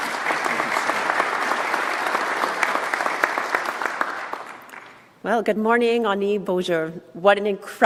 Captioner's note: applause